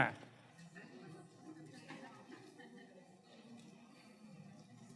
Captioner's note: crowd chattering